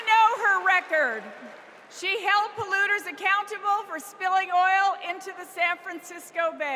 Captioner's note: cheers and applause